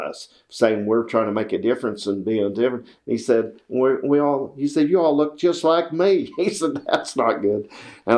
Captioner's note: laughs